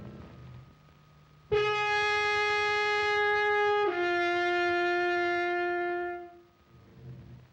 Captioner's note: horn blows loudly